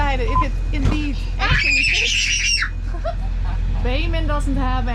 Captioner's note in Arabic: يصرخ